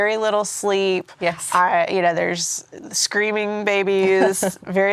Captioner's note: laughs